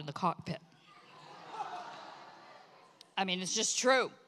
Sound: congregation laughs

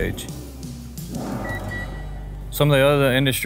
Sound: device beeping

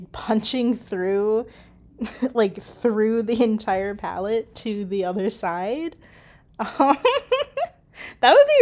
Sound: laughs

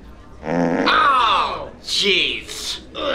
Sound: farting

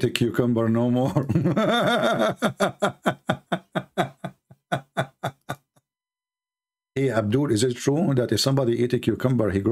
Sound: Ketawa

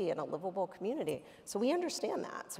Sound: none

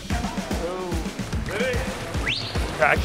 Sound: whistle

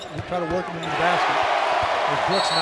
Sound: crowd cheering

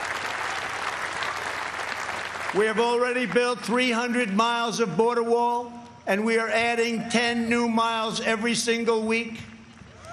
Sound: cheers and applause

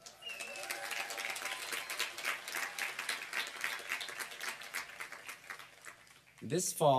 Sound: applause

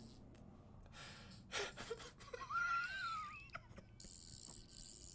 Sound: giggling turning into wheezing

